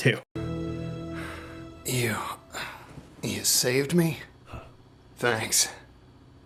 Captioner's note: sighs